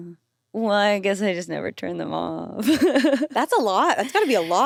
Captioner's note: chuckles